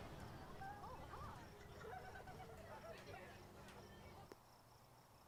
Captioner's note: children talking in the background